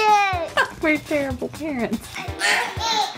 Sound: voiceover; laughs

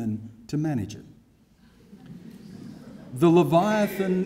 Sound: laughter

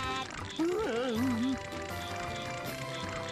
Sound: whimpering

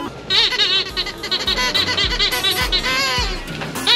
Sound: toy squeaks

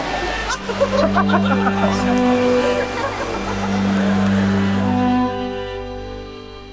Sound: laughing

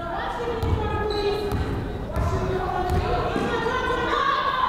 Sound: players shouting

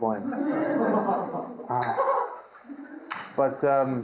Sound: audience laughing

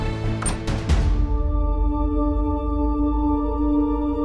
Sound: door opens

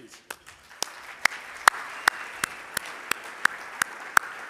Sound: audience applauding

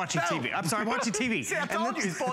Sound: laughter

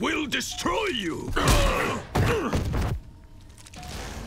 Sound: grunting

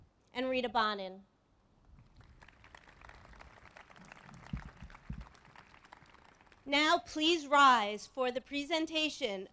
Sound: applause

